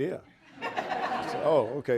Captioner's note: audience laughing